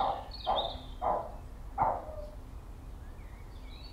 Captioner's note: dog's bark